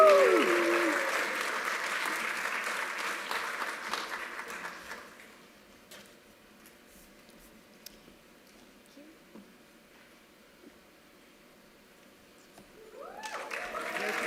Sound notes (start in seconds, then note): 3.6 applause